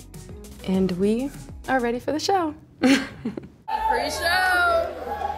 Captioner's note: laughs